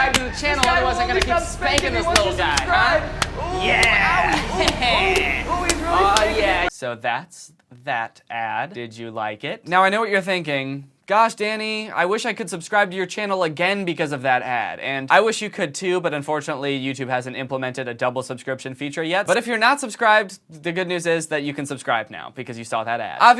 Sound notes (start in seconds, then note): 3.2 Spank-ee Danny continues whimpering